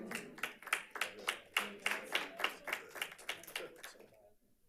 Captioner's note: audience applauds